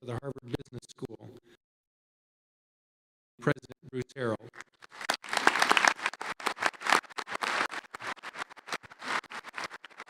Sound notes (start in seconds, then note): 2.0 audio cuts out; 4.9 audience applauding